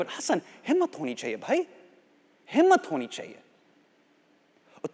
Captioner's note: speaking Hindi